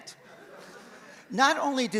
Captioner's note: audience laughs